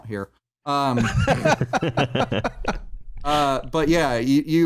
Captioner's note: laughter